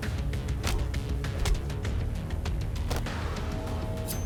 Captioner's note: blows thudding; mellow upbeat music